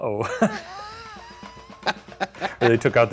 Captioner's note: laughing